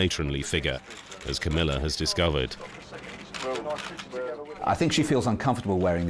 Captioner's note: camera shutters clicking